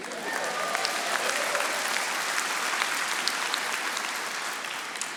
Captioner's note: audience applauding